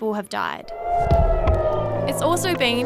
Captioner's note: sirens wail